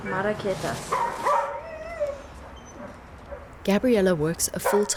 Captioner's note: speaking in a foreign language; dog barking